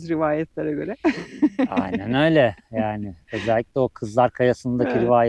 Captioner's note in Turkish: kahkaha